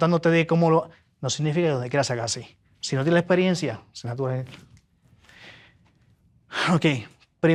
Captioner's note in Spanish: suspiro